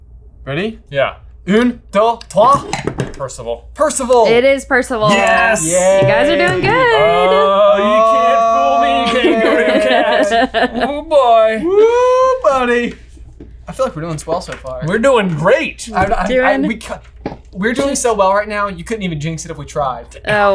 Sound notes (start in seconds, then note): 2.4 boards clack; 5.1 bell dings